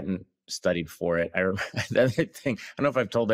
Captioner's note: laughs